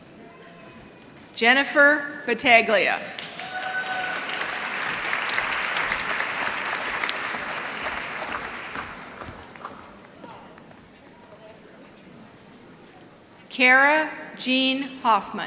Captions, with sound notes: Jennifer Bataglia. [ Applause ] Kara Jean Hoffman.